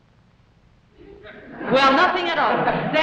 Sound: audience laughs

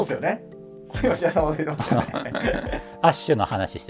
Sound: laughing

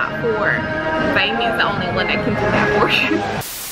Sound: laughing

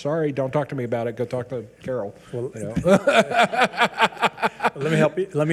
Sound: laughs

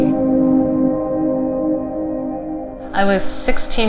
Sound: ethereal humming

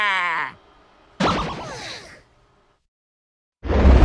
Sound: groan

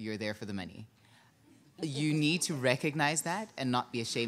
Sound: audience chuckling

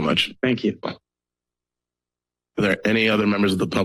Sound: silence

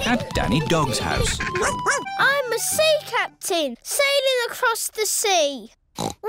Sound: barks; oinks

